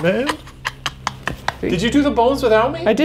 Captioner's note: laughing